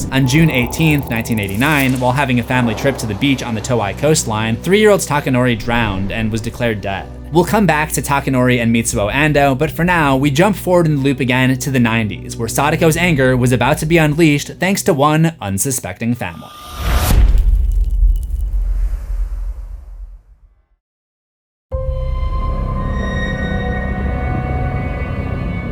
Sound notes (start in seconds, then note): 16.6 impact